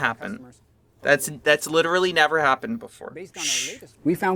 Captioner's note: shushes